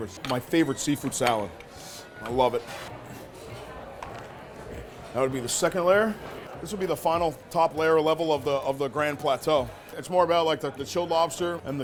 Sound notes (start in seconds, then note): 3.7 customers chatting indistinctly